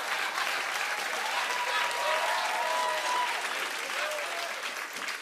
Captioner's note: cheering and applause